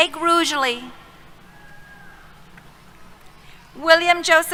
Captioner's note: cheers